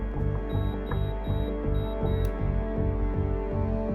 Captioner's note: machine beeping